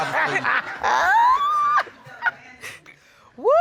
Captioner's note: laughing